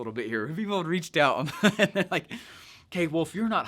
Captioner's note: laughs